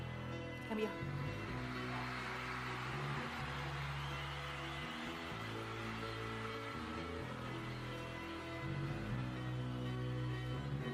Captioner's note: cheering